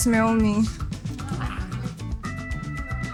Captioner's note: laughs